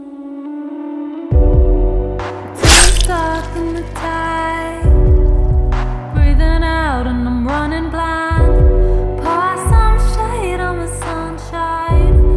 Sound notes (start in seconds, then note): 2.6 slashing